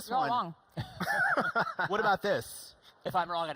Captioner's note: laughing